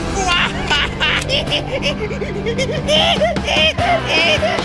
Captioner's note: monkey noises